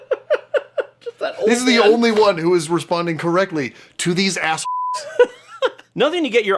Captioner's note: beeps